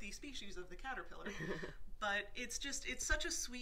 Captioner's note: laughs